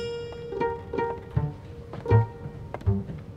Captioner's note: footsteps from other room